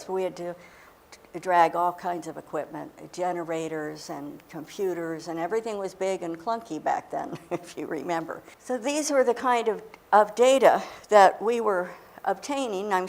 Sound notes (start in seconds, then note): 7.3 chuckling